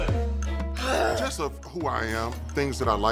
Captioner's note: sighs